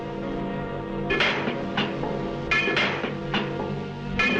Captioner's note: metal clanks